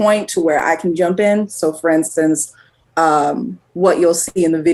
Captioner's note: none